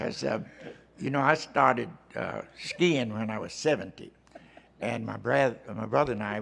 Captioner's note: laughter